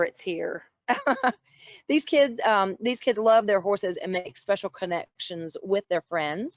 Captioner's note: laughter